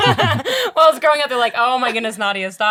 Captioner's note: all laughing